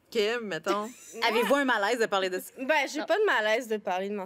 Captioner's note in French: rires